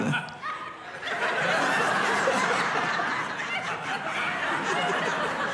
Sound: congregation laughing

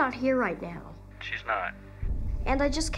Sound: on phone

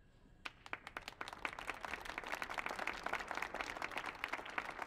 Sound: audience applauding

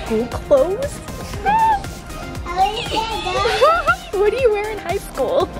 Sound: child chattering

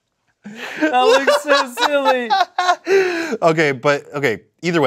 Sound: laughing

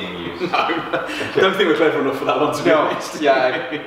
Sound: laughs

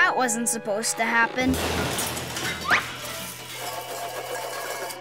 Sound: caravan crashing

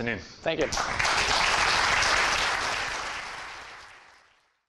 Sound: applause

